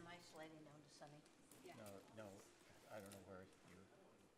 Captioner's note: group chattering